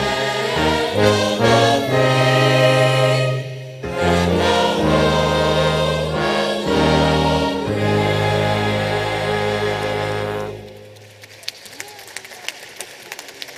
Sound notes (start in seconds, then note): 10.9 applause